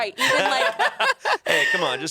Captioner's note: everyone laughs